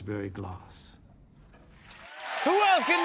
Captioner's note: cheers and applause